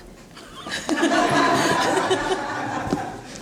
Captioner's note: laughing